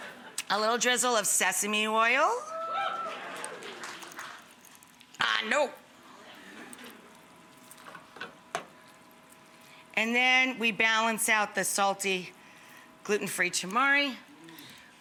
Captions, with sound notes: A little drizzle of sesame oil. (audience whoops) I know. And then we balance out the salty gluten-free tamari